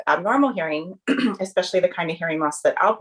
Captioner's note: throat clearing